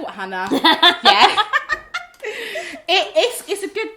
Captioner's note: both laugh